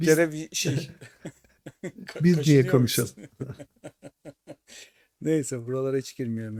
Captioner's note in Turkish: kahkaha